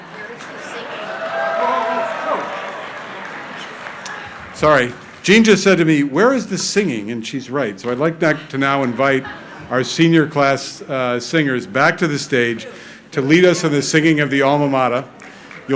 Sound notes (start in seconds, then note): 0.0 crowd cheering